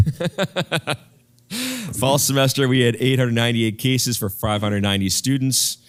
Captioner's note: laugh